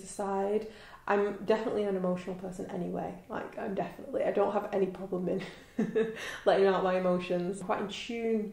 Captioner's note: laughs